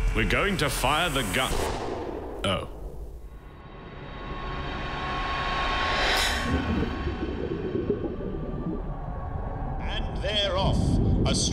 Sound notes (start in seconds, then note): 1.8 starter gun; 7.6 water sounds